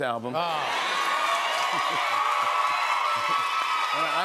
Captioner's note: cheers and applause